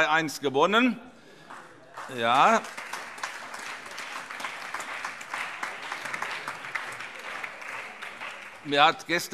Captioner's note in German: Beifall